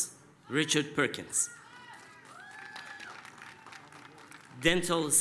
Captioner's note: applause, cheering